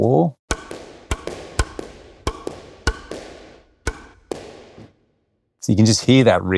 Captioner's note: wall banging; racket pounding